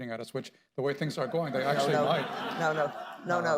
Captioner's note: laughter